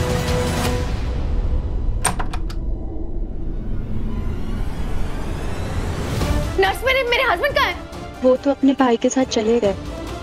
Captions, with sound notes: [door opens] Nurse, where is my husband? He left with his brother.